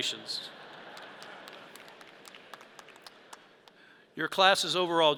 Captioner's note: audience laughs